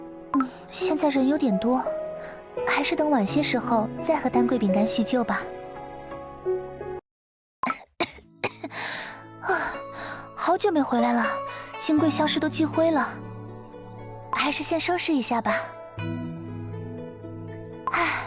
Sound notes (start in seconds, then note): 8.4 cough cough